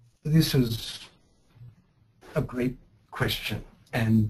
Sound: voiceover

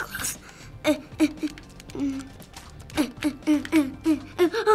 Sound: struggling

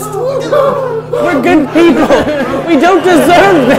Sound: men freaking out

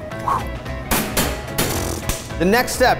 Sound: metal clattering

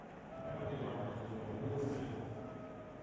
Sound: stadium announcement

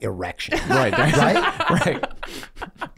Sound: Meg laughing

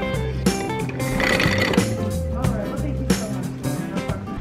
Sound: relaxed music; rattles

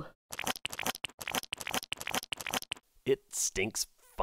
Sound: stirring

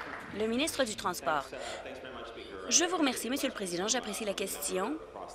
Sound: applause

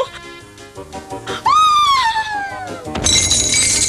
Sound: squeals

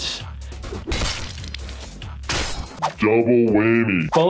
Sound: blade slashing

